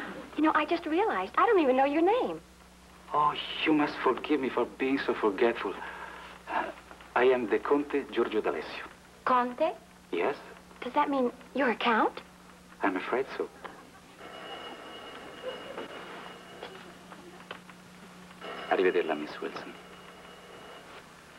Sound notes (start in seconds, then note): 15.1 phone rings